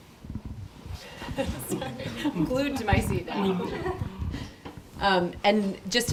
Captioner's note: laughs